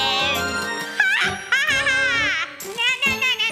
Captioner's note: laughs